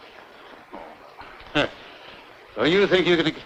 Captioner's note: chuckles